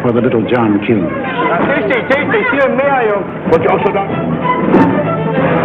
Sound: people speaking in German; dramatic music

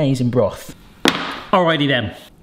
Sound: rack thuds

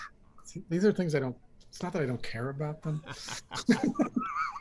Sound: laughter

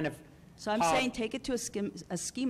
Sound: voiceover

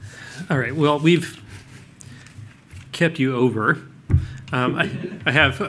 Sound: laughter

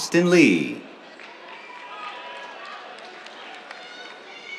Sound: cheers, applause

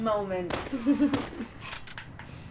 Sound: laughter

